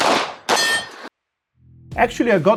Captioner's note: targets pinging